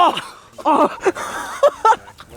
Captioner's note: laughter